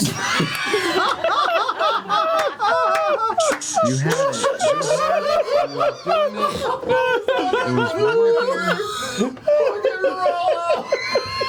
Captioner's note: laughter